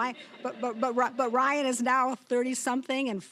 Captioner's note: audience laughing